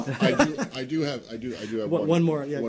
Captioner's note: laughter